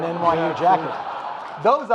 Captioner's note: audience laughing